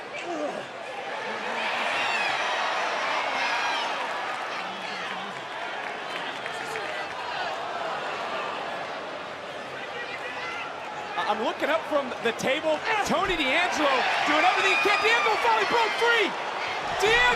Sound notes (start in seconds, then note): 2.4 crowd yells